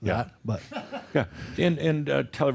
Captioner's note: a few chuckles